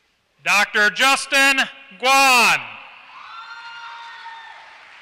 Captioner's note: applause